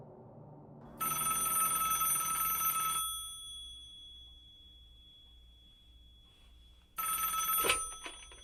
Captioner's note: landline phone rings